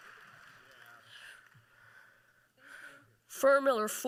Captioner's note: applause